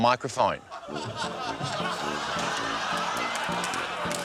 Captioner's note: laughter